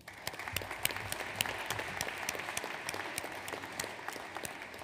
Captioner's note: audience applauds